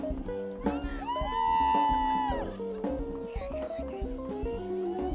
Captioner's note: people cheering